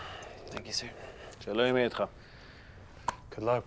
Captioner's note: in Hebrew